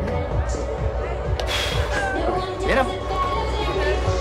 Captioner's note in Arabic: زفير